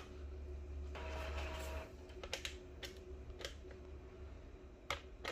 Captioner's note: printer machine sound